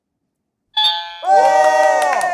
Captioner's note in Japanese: 正解音